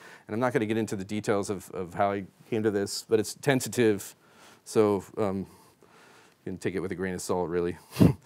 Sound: chuckles

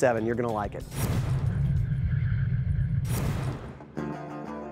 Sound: dramatic transition noises; dramatic music playing

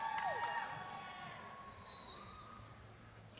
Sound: cheers and applause

